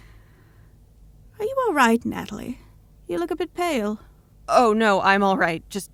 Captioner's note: none